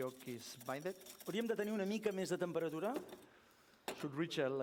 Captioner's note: non-english speech